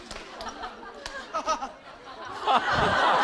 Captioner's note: haha